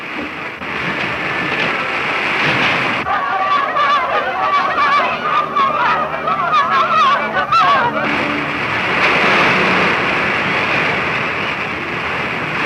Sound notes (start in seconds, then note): 3.3 people panicking; 8.1 rushing water